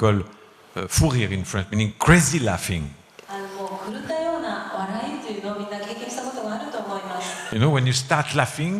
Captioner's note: giggles